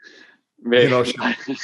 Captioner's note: laughter